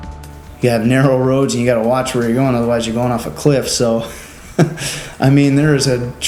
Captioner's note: laughs